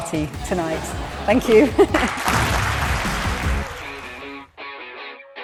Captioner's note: audience applauding